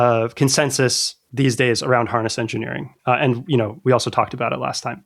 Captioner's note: uh